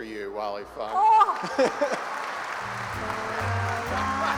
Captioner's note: applause